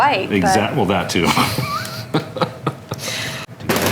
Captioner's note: chuckling